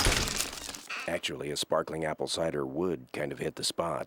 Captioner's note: none